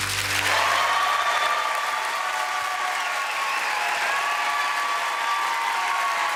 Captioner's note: applause